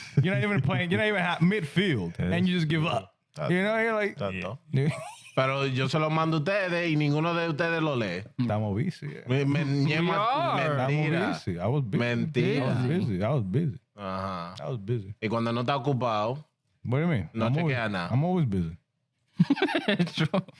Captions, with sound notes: You're not even playing, you're not even at midfield. And you just give up. You know, you're like-- That's it. (Laughing) (Speaking In Foreign Language) I was busy. I was busy. I was busy. Ah. I was busy. (Speaking In Foreign Language) What do you mean? No, check it out now. I'm always busy. (Laughing) True.